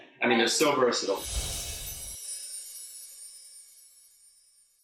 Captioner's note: chiming